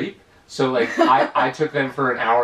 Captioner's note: giggles